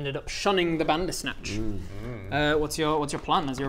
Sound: proud hmms

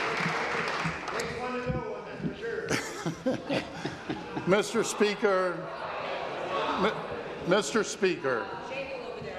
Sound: applause

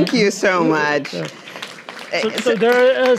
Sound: audience applauding

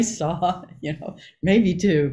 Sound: Joy laughing

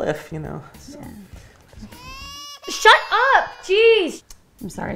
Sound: a baby cries

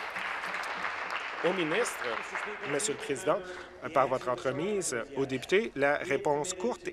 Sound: applause

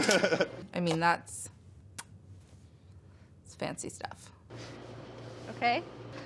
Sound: laughs; puckers

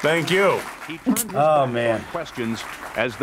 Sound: laughs

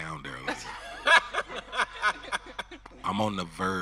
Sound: audience and host laughing

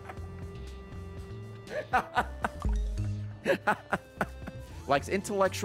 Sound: laughs

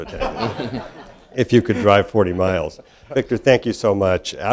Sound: laugh

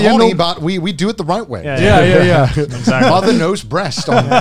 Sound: all laughing

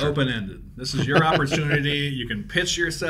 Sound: laughs

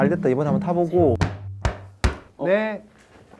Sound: knock! Knock! Knock!

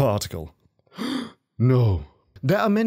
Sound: gasp* No!

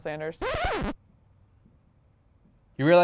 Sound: record scratch

